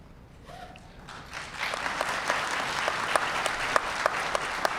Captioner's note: applause